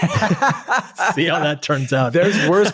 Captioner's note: both chuckling